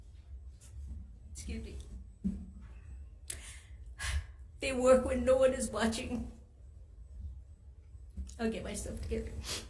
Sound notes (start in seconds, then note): 3.3 exhales audibly